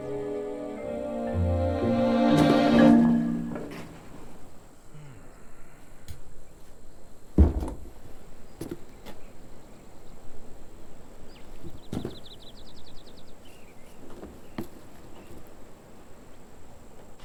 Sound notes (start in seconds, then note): 4.9 old man grunts